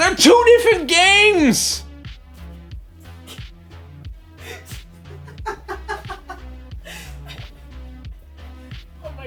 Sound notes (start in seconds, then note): 4.9 laughter